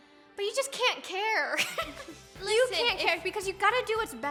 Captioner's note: laughing